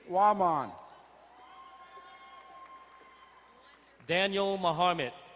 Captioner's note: crowd cheering and applauding